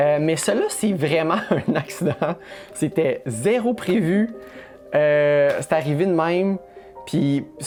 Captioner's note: laughs